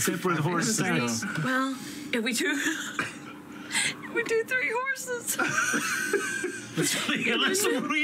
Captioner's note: laughter; laughs